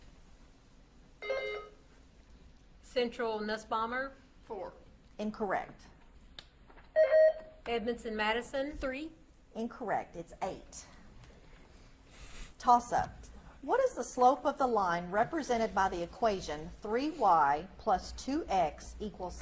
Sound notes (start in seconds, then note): 0.9 buzzer beeps; 7.0 buzzer beeps